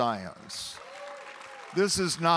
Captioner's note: audience applauding and cheering